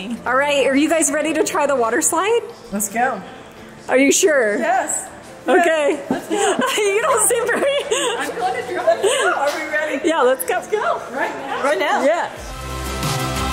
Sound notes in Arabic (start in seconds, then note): 8.1 يضحك